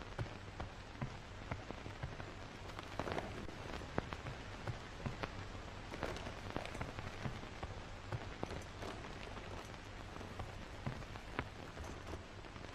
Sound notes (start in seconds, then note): 0.2 footsteps thumping; 3.3 objects rustling